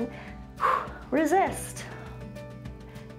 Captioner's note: exhales